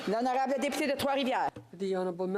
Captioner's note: speaking French